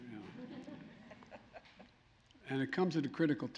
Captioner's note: laughter